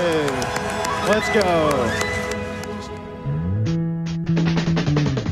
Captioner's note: crowd Cheers